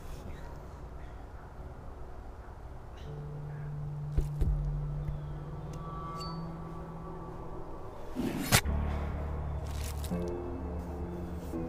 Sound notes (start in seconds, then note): 8.2 slicing